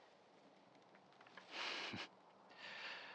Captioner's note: laugh